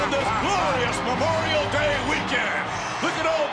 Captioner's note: Jesse laughs